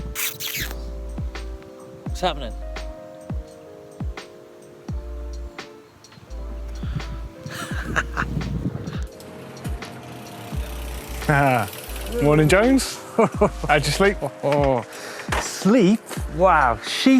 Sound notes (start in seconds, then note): 7.4 laughs